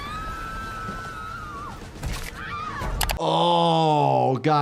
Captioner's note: people screaming